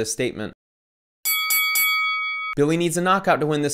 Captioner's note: bell dings